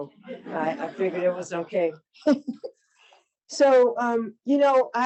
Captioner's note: audience laughs; chuckles